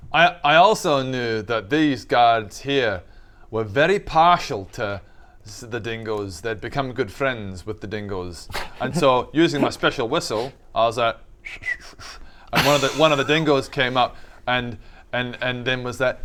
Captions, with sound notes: I also knew that these guards here were very partial to the dingoes, they'd become good friends with the dingoes and so using my special whistle I was like *"special" whistle* - and one of the dingoes came up - *laughs* and and and then was like